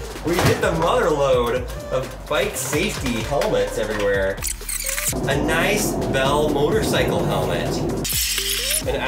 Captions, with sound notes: We hit the mother lode of bike safety helmets everywhere. (video squelches) A nice Bell motorcycle helmet. (video squelches)